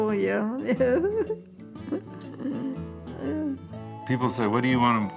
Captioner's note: laughs